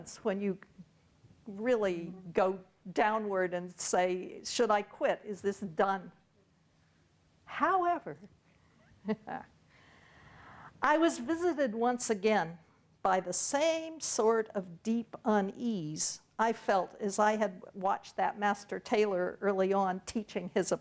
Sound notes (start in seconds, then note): 9.0 chuckles